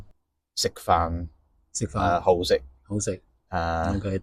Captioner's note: in Cantonese